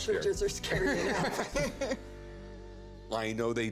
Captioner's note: laughter